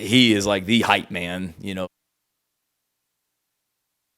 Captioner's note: sound cuts out